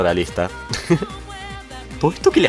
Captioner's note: laughs